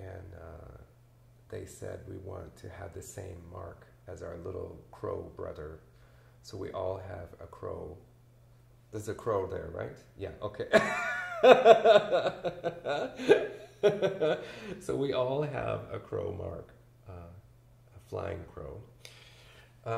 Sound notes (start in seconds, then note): 10.8 laughs